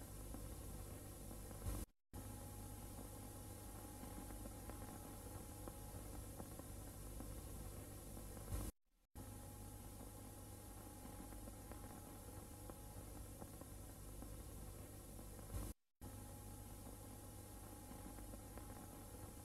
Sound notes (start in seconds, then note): 2.8 VHS static; 17.2 VHS static